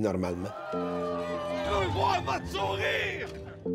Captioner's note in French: cris de manifestants